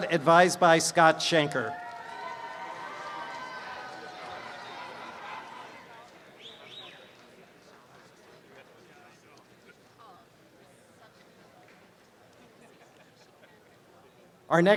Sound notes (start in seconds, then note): 1.2 applause and cheering; 1.3 background audience chatter